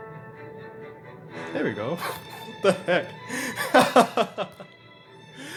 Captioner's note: laughter